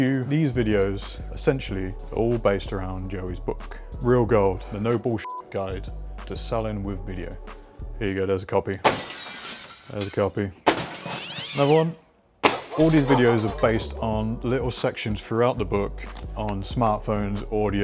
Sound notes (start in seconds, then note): 5.2 beep